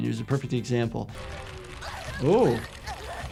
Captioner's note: bones crunching; Hinako whimpering